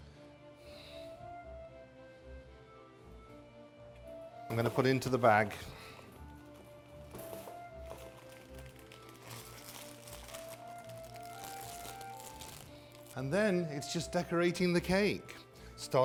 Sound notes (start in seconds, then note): 0.1 orchestral music; 9.4 bag crinkling